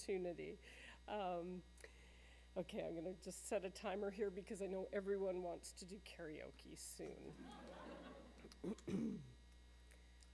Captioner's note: laughter